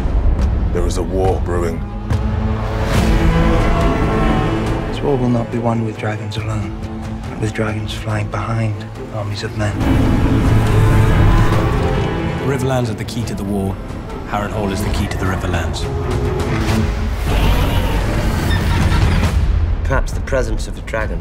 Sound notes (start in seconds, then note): 3.0 dragon screeches; 9.8 vhagar roars; 17.0 caraxes roars